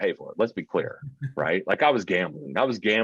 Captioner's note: chuckling